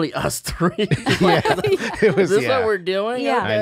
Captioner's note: they laugh